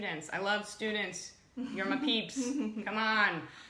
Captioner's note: laughs